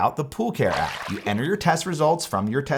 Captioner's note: water splashes